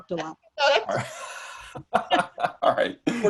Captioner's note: panelists laughing